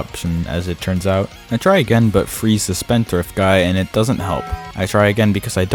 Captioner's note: taco bell bong